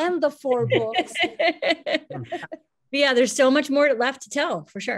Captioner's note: laughs